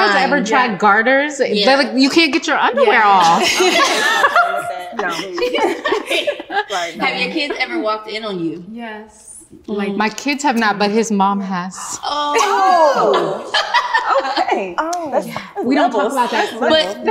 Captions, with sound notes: - Have you guys ever tried gutters? You can't get your underwear off. (all laugh) - Have your kids ever walked in on you? - Yes. - My kids have not, but his mom has. - Oh. - Oh, okay.